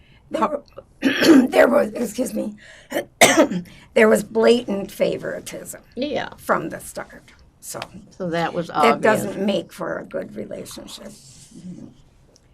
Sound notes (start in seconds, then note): 0.7 clears throat; 3.0 coughing; 11.2 drinking